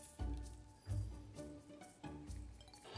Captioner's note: sugar granules pouring